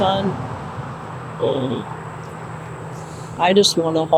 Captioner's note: traffic droning